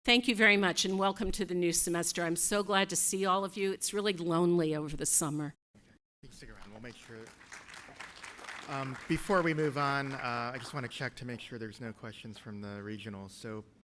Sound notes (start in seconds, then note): 6.3 applause